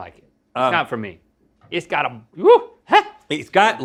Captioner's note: Link exclaims